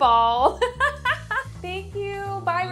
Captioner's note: laughs